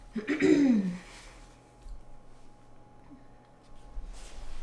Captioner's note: woman clears throat